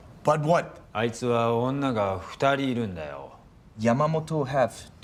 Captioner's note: speaking in foreign language